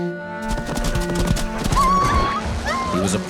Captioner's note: whimpering